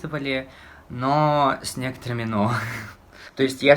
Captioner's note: laughs